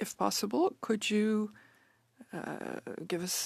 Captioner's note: speaking French